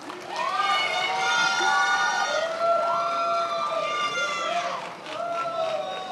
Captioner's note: attendees applauding and cheering